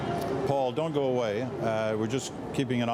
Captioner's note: cheering